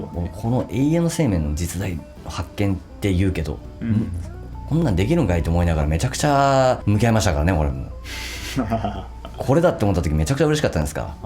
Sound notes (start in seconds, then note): 8.2 laughs